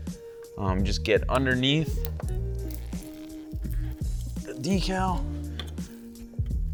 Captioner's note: tool squeaking